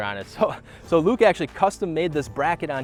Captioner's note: chuckles